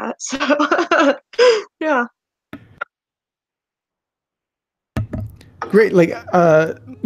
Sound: laughing

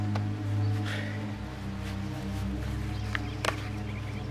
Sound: Jess sighs

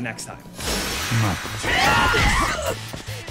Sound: men grunt

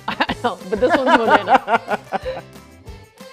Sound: chuckles

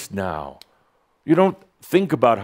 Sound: snap!

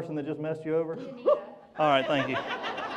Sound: voiceover

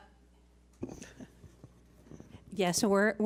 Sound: laughs

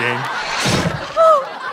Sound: guillotine chop

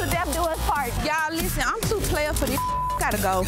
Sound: beep

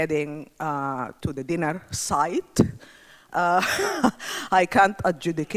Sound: chuckles

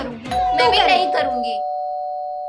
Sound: door Bell Ringing

